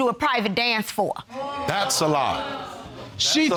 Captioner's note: audience gasps